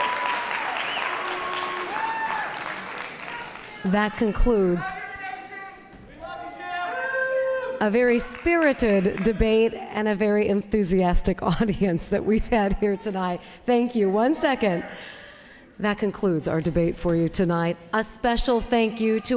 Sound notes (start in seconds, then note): 0.0 applause